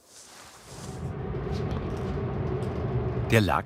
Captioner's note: machine roar